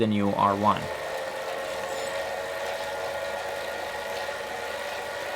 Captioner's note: trainer whirring